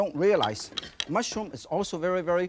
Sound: glass clinks; utensils shuffling

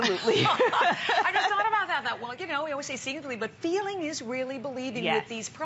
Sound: laughter

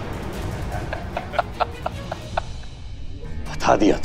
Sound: laughing

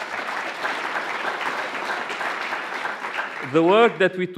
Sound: applause

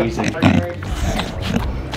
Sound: snorting

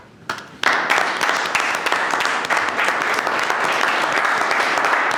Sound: audience applauding

